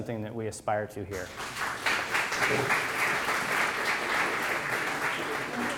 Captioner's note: applause